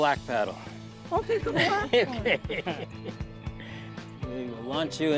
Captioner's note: laughing